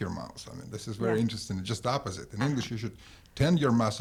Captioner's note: laughs